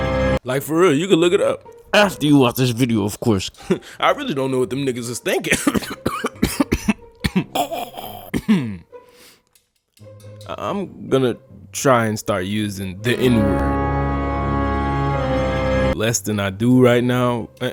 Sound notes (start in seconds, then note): 5.5 narrator coughing; 13.0 dramatic horror music